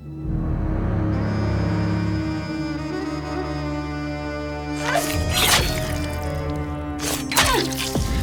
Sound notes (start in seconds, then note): 0.0 dramatic music continues; 4.8 knife slice; 5.1 person grunts; 7.0 knife slices; 7.3 blood gushes